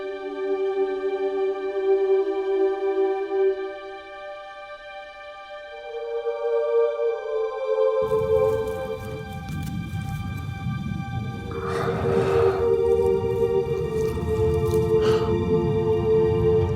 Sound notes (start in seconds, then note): 9.1 somber music continues; 11.2 breathes heavily